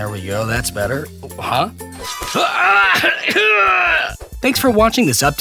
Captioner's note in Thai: เสียงร้อง/เสียงโดนแทง